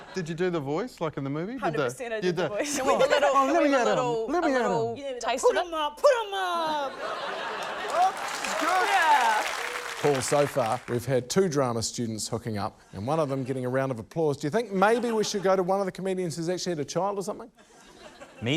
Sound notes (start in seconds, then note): 6.8 laughter